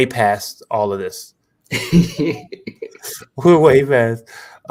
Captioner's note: laughter